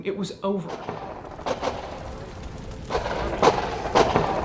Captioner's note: guns banging